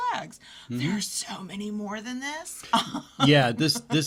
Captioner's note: laughs